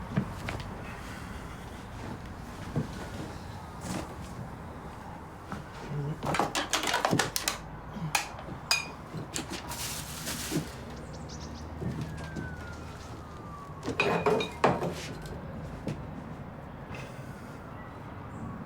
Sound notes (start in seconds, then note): 13.9 bottles clanging